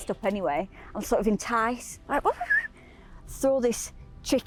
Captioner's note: whistles